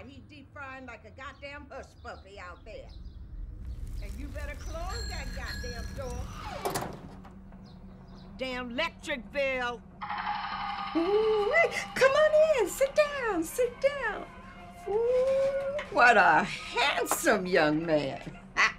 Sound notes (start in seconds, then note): 4.9 bike bells ringing; 5.6 door creaks shut